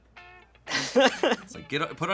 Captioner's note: laughs